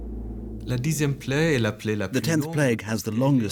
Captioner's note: speaking French